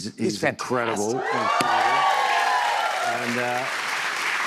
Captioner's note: cheers and applause